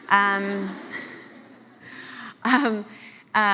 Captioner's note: laughs